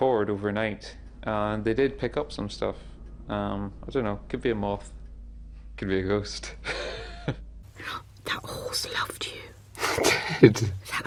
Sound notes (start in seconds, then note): 6.6 laughs; 9.8 gasps